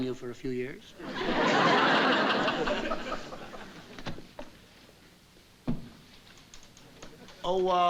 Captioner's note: laughter